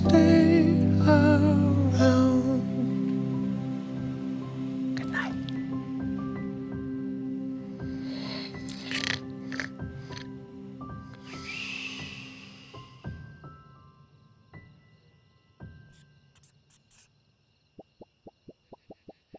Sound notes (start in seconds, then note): 7.9 snoring